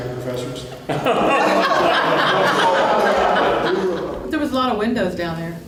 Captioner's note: laughter